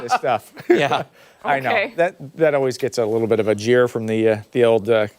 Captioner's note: laughter